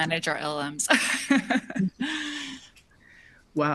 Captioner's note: chuckles